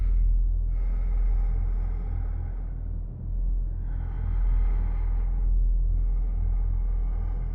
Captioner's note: ominous music; breath huffing